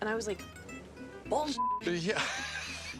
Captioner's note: beep